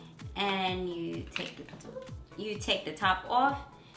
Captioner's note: plastic clinks